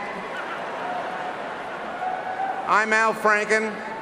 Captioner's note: chuckling; cheering and applause